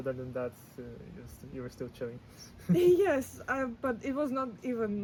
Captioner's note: laughs